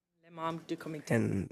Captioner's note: speaking French